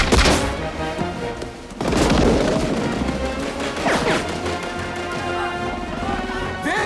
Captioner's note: machine Gun Fire